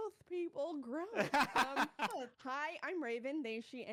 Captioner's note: laughing